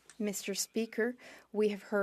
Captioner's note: speaking French